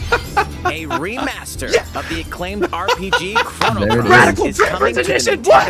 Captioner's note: laughs